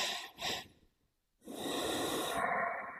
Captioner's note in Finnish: huokaus